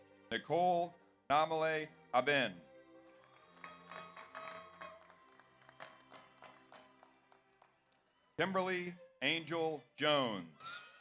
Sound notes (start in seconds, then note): 3.0 audience applauds; 3.2 audience cheers